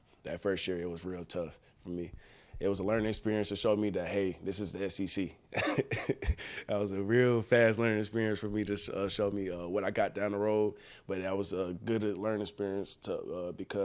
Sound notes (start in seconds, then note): 5.6 laughing